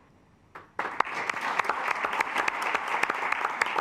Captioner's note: assembly clapping